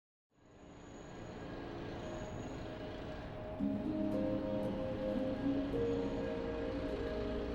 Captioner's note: serene music; blowers humming